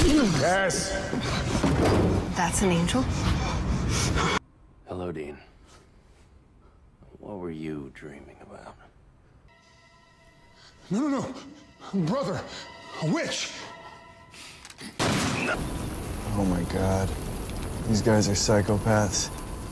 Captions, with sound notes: Cas! That's an angel? Hello Dean. What were you dreaming about? No no! Brother, Witch! *Gunshot* Oh my God. These guys are psychopaths.